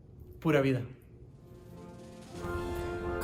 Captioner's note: speaks in foreign language; gentle orchestral music